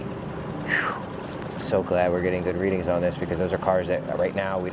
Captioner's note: sighs